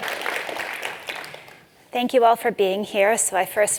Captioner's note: applause